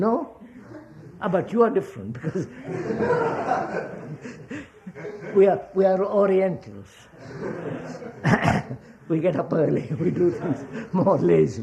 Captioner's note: laughter